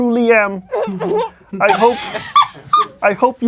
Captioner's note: laughing